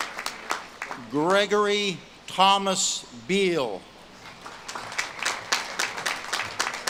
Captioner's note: audience claps and cheers